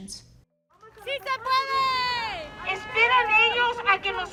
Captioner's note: Spanish